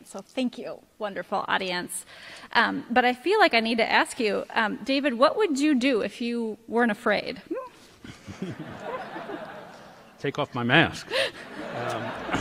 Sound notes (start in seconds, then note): 8.0 laughter